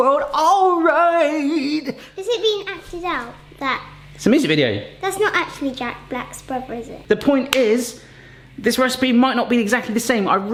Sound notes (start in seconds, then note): 7.5 hands clap